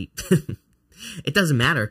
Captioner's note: laughing